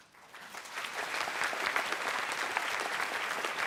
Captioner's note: applause